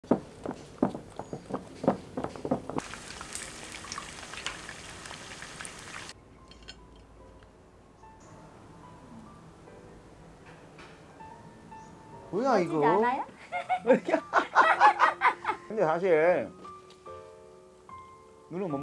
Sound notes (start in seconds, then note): 13.4 both laughing